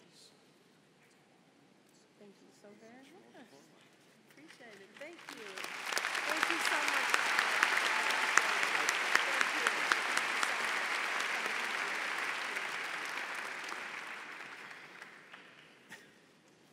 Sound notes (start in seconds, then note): 11.2 applause